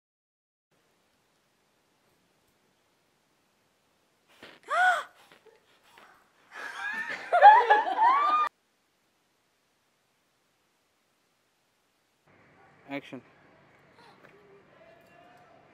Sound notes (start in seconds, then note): 4.4 gasps; 6.5 laughter